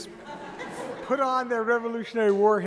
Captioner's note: audience laughs